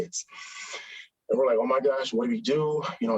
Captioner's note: inhales sharply